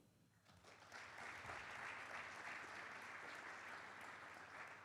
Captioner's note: audience clapping